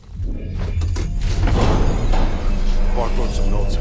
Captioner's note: gun fires